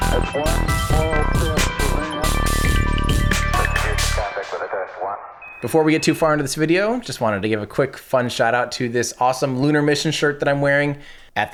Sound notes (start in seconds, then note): 4.3 speaking faintly